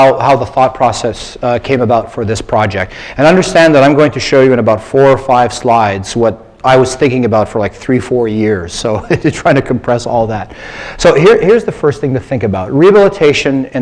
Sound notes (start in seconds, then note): 9.0 laugh